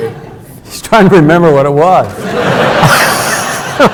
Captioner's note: audience laughs; laughs